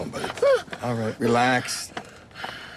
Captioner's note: breathing heavily